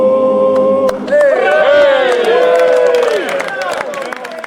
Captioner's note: chorus cheering